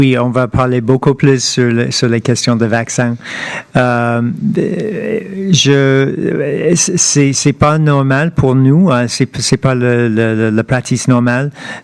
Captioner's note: speaking French